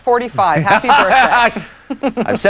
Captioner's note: laughs